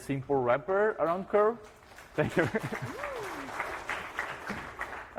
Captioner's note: applause